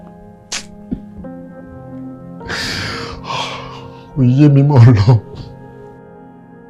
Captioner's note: sobbing